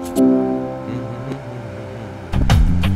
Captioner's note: Humming